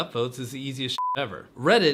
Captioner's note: beep